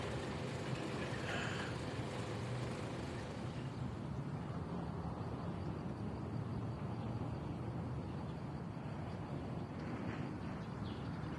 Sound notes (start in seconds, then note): 0.0 vehicles traveling, birds chirping